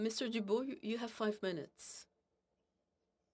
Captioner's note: speaking FRENCH